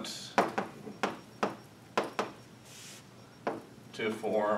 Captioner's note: chalk pen tapping